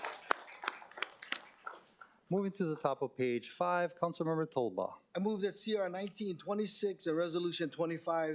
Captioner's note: applause